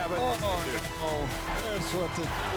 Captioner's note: static